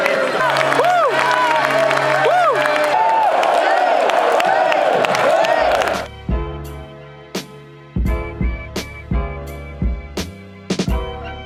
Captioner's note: cheering and clapping